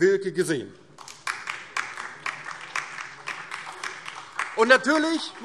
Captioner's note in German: Beifall DIE LINKE und vereinzelt SPD